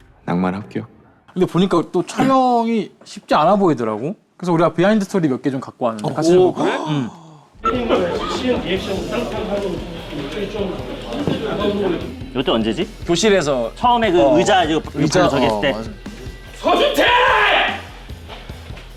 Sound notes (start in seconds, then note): 7.8 si-eun talking in the classroom